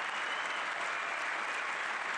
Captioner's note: cheering